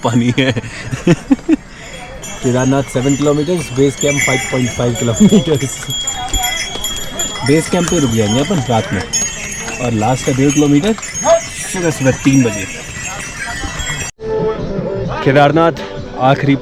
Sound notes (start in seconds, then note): 0.0 chuckles; 8.3 ponies walking